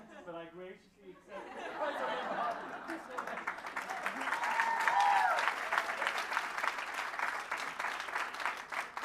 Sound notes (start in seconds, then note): 1.2 laughter; 4.2 applause